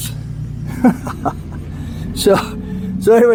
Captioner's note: laughs